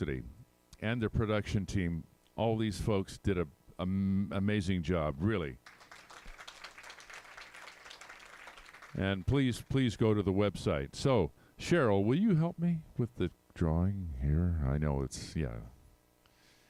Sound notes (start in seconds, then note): 5.6 applause